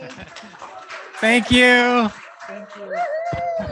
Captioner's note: audience applauding and cheering